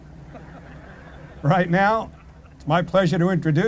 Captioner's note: laughter